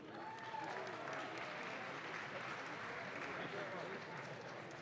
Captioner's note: audience claps